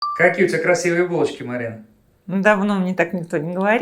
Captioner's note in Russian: Закадровый голос